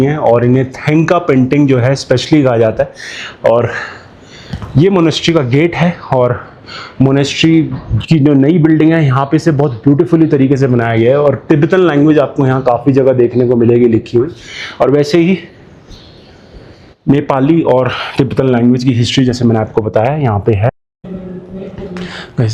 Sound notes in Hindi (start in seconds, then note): 3.7 गहरी सांस लेने की आवाज़